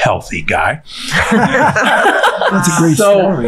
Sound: all laughing

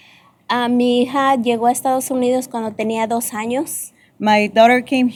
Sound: speaking spanish

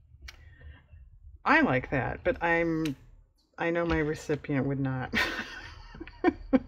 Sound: laughs

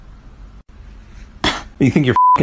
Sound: cough

